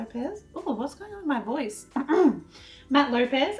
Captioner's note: clears throat